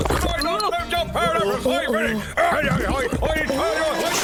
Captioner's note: yells angrily